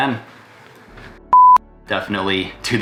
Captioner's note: beep